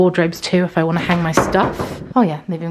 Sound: door banging

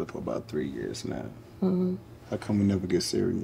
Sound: Sonia scoffing

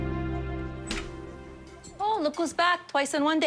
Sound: bell tinkles

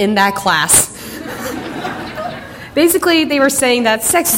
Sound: audience laughter

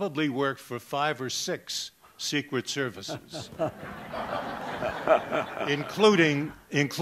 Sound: laughter

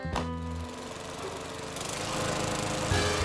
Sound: lawnmower running

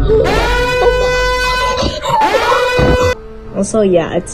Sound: breathes heavily

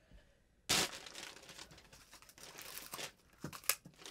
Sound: bags rustling

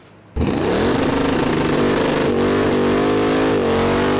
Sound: engine roaring

